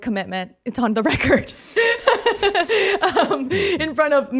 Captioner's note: laughing